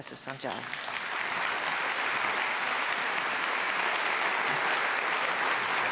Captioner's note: applause